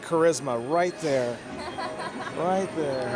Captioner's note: laughs